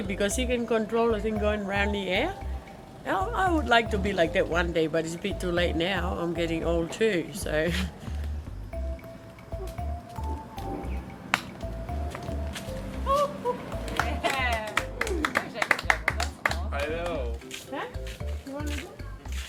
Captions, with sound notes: because she can control the thing going round the air. I would like to be like that one day, but it'd be too late now, I'm getting old too. (audience clapping)